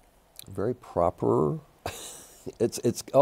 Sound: chuckles

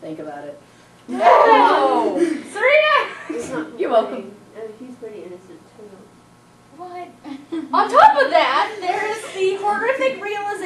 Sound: audience commentary

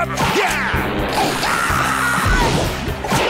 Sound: screaming

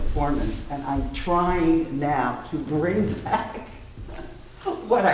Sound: laughs

